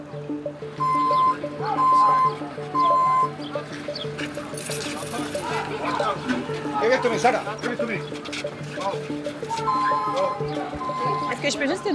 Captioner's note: truck sound